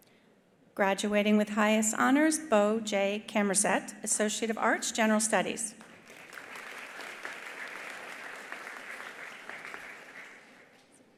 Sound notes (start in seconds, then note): 5.8 attendees applauding